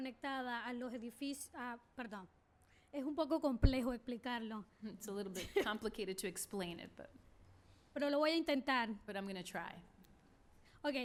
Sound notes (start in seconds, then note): 7.8 speaking spanish; 10.8 speaking spanish